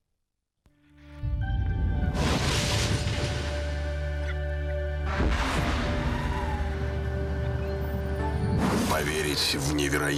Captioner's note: rustle